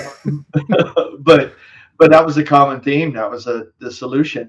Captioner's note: laughing